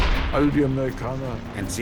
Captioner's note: speaking in foreign language